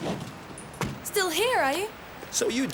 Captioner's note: car door thuds